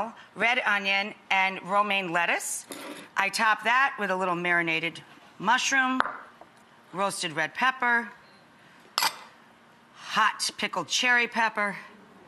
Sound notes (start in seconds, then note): 8.9 glass clinking